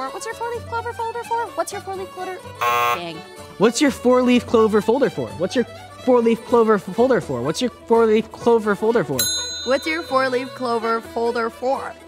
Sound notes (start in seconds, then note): 2.6 buzzer